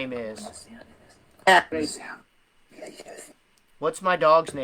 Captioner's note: whispering